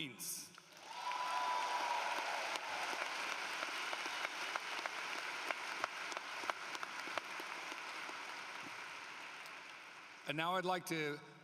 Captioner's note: cheering and Applause